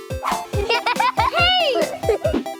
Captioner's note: Sophie chuckling